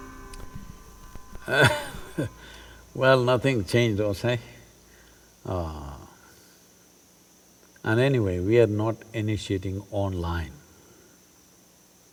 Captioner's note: laughs